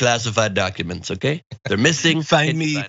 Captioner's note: laugh